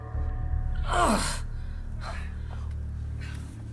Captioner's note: doctor and eddie groan